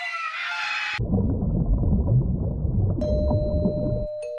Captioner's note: both scream; water burbles; doorbell rings